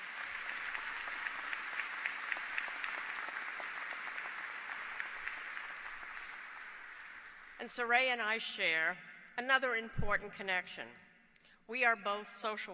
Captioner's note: applause